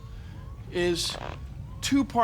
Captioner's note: <i> squeaking</i>